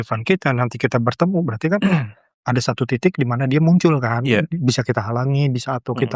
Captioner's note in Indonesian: berdehem